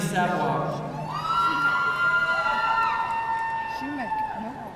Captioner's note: audience cheering